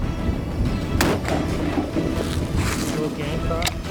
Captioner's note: shot fired